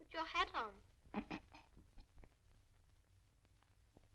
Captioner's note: chuckling